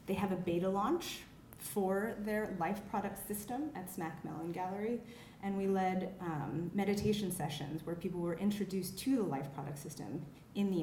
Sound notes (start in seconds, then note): none